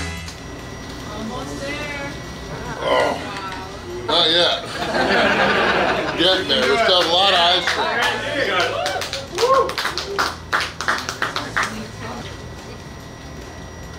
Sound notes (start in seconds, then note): 0.7 crowd; 9.0 crowd cheering